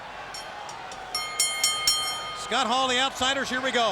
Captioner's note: bell ringing